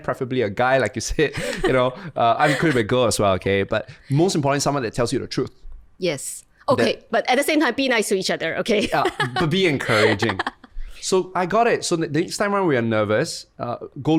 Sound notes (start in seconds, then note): 8.8 laughs